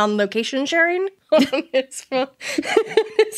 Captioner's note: laughing